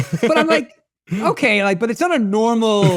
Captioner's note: laughing